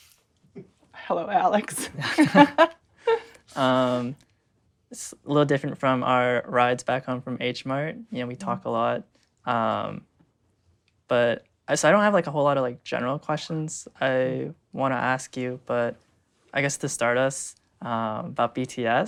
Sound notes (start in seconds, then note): 1.7 laughs